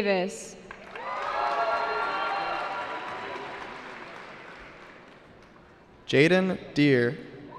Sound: cheering

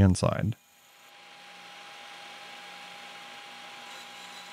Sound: lathe whirring

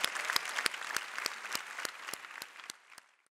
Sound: applause

